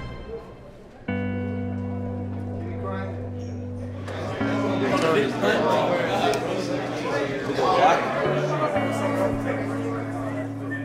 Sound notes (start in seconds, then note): 4.4 crowd chattering